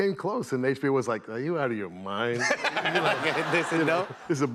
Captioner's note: laughter